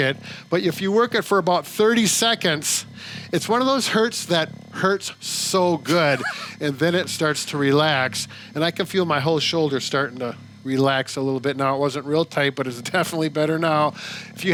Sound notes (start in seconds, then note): 5.8 laughing